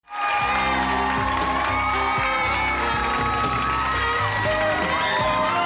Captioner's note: cheering; catchy jazzy music